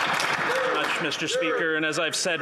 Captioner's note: applause